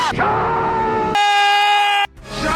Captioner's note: man yelling